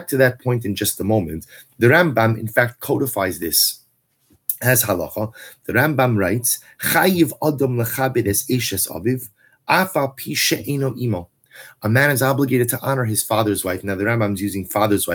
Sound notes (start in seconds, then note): 9.5 Hebrew